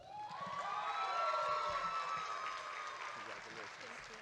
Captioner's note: audience cheering